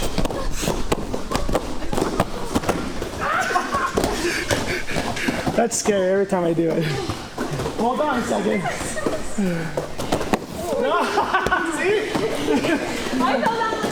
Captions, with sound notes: (footsteps) (laughing) That's scary every time I do it. Hold on a second. (laughing) I fell down.